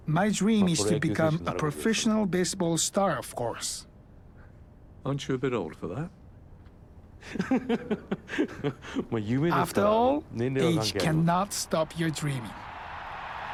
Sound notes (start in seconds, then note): 5.1 voiceover; 7.2 laughs